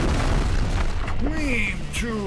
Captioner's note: explosion